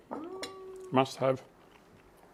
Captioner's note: none